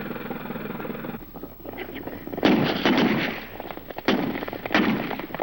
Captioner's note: gunshots